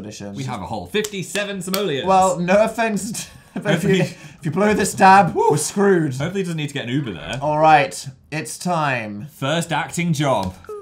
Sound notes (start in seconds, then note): 1.6 claps; 2.8 laughs